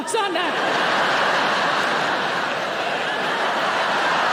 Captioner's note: audience laughing